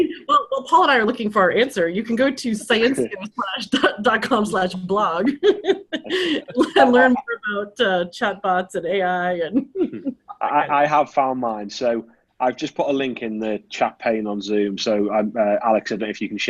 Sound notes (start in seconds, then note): 5.4 laughs; 9.9 laughs